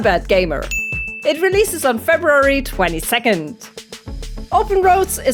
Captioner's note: ding sound